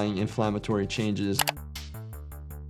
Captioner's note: keyboard clacking; upbeat music